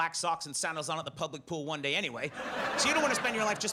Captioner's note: audience laughs